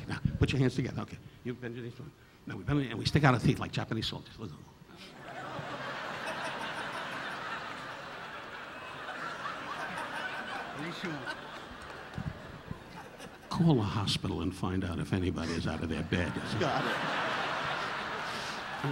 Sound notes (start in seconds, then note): 5.1 audience laughing; 10.6 speaking in Japanese; 15.4 audience laughing